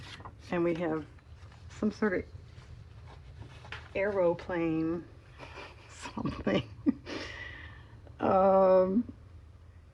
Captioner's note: laughs